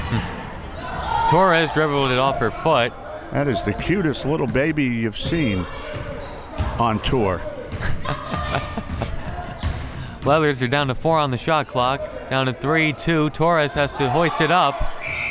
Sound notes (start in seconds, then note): 0.8 laughs; 7.8 laughs